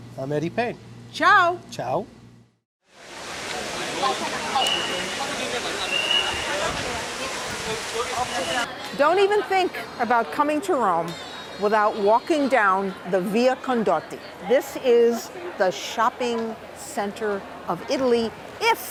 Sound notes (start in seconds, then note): 3.0 crowd Noises